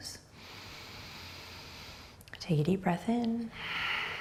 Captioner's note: breathing deeply